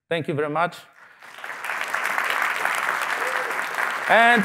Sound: applause

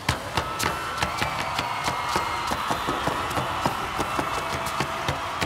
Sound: audience cheers and applauds

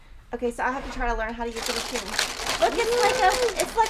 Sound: raffle machine rattling

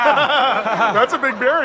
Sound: laughing

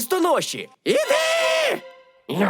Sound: screaming

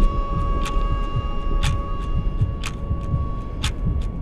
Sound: clock ticks

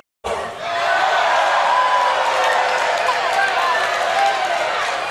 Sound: crowd boos

